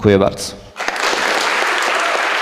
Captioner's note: applause